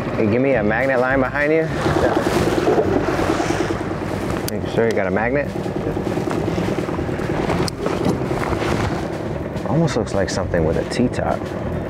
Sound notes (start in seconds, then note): 8.1 engine droning